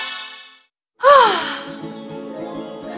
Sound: happy sigh

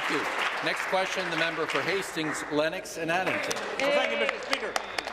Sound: applause

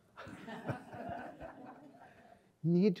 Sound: audience laughs

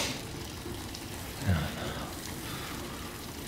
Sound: Kyle mumbles

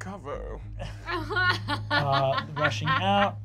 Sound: Fig laughs

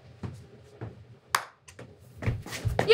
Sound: clap

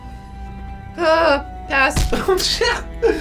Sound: stamp thuds; laughs

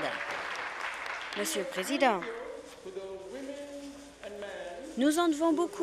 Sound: applause

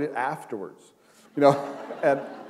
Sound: chuckle

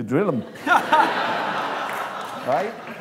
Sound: laughter

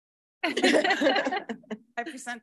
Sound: board members laughing

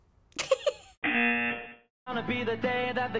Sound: buzzer

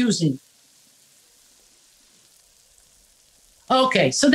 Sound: food sizzling sound

